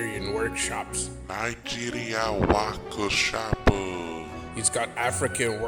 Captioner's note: japanese voice